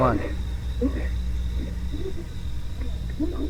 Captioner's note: animal growling